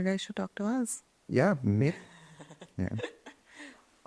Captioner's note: chuckles